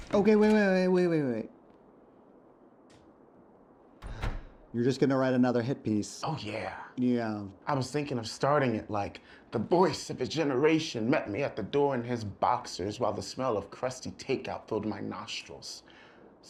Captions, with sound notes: Okay, wait, wait, wait, wait, wait, wait. (sighs) You're just gonna write another hit piece? - Oh, yeah. - Yeah. - I was thinking of starting it like "The Voice of a Generation met me at the door in his boxers while the smell of crusty takeout filled my nostrils."